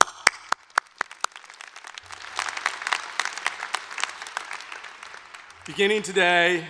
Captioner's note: applause